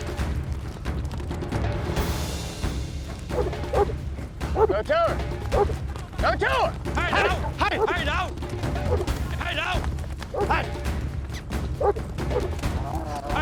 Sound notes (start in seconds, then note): 3.3 dog barking; 7.0 dog barking; 10.3 dog barking